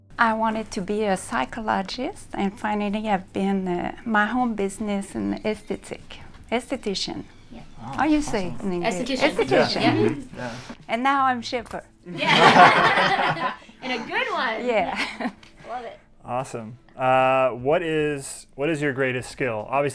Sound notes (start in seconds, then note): 9.2 all muttering agreement; 12.2 all laugh